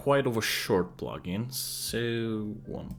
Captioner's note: thinking sounds